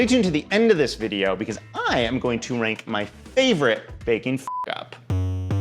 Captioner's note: beep; upbeat electronic music